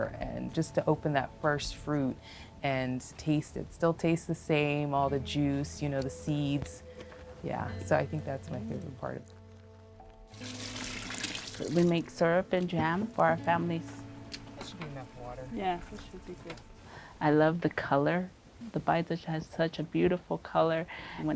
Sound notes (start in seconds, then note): 10.3 water pouring